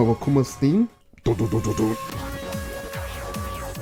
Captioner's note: imitates dub sounds